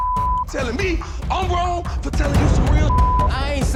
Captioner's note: beeping; beeping